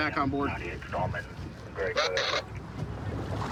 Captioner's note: radio communication